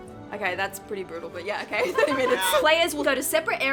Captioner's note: women laughing